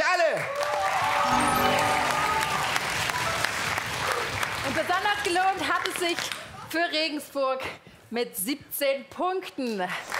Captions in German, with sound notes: Richtig ist Antwort C. Punkte für alle! *Jubel* Besonders für Regensburg.